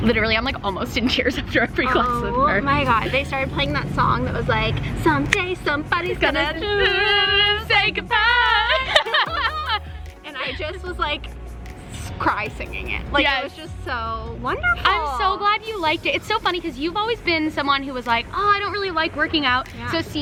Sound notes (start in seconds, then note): 7.1 humming; 8.0 laughing